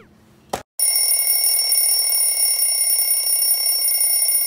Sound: ringing noises

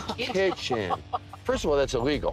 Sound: laughing dubiously

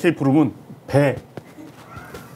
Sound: in Korean

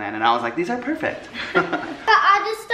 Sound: laughs

